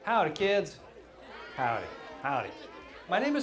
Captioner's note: crowd Of Children